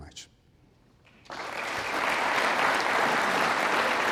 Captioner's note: applause